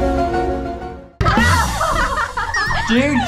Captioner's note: beats playing; laughs